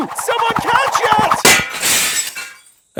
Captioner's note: shatters